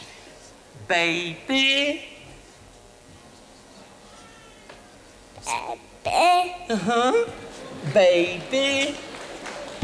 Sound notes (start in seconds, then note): 6.1 audience responds softly